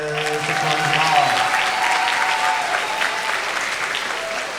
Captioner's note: everyone applauding